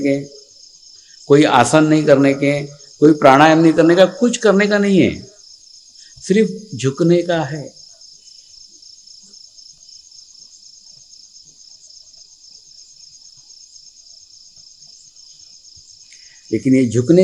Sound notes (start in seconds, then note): 2.9 breathing exercise